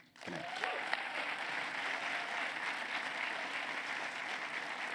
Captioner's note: applause